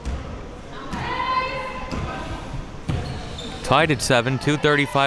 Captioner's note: spectators shouting